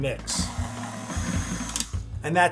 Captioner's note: mixer whirring